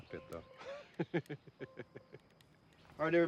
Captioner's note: laughter